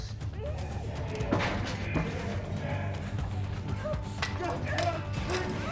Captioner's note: shouting